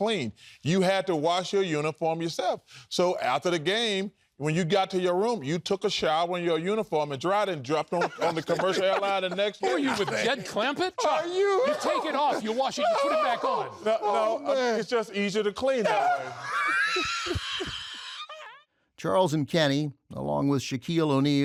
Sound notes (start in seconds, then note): 13.5 laughs; 15.8 laughter